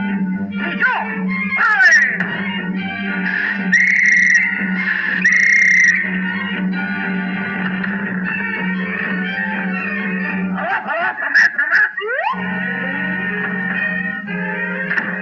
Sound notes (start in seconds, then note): 0.7 speaking French; 3.6 whistle Blows; 10.6 speaking French